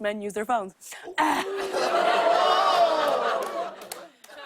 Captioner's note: audience ohs